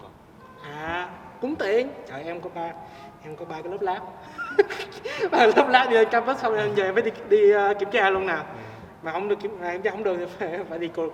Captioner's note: laughs